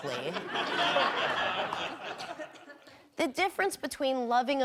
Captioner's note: audience laughing